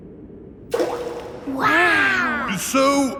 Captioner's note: rock plops